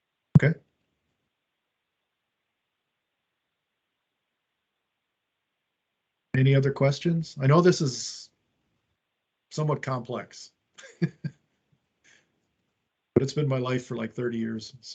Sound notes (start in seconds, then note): 10.8 chuckles